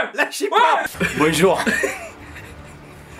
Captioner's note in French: rires